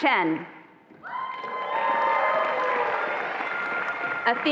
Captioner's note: attendees applauding and cheering